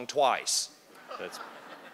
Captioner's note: laughter